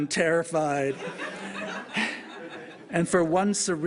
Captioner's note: laughter